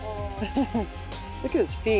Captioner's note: laughs